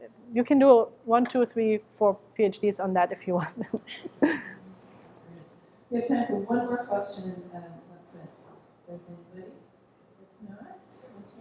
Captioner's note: laughs